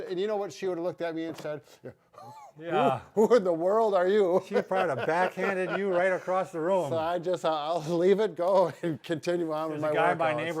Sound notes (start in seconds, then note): 4.4 laughs